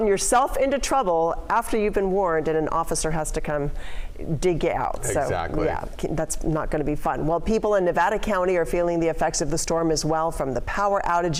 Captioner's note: laughs